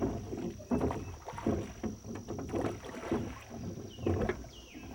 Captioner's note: water sloshing; oars rattling